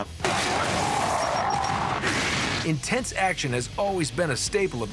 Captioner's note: gunfire